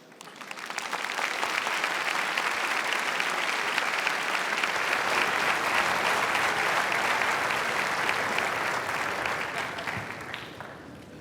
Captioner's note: applause